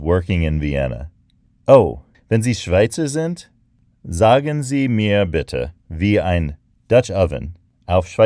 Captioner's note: speaking German